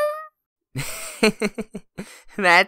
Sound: chuckles

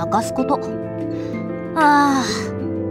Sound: sigh

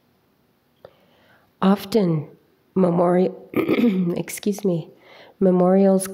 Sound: clears throat

